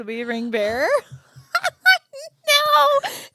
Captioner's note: both laughing